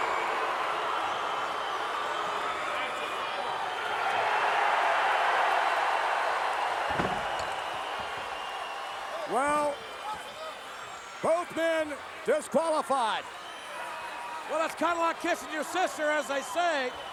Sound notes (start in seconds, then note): 4.1 crowd cheering